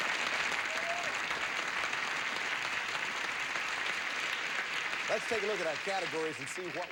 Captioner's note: audience applauding